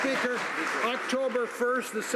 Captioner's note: some Applause